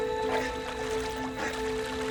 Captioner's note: grunts